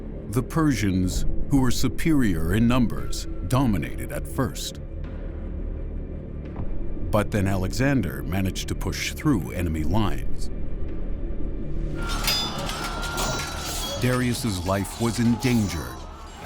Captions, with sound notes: The Persians who were superior in numbers dominated at first, but then Alexander managed to push through enemy lines. [commotion] Darius' life was in danger